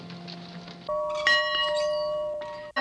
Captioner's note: bell ringing